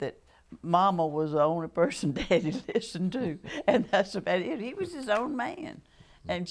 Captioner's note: laughter